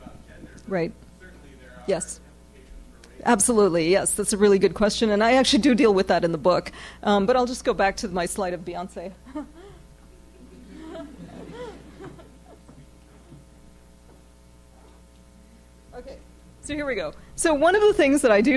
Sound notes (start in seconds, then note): 10.0 laughs; 10.0 audience chuckles; 15.2 pause